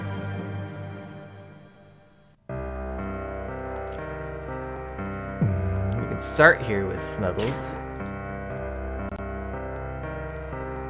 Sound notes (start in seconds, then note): 5.4 humming